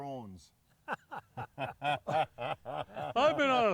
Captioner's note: laughing